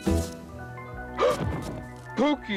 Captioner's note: gasps